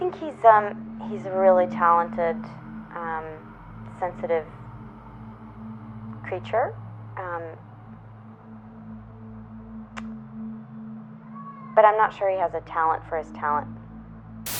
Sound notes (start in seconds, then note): 10.1 Estelle clicks tongue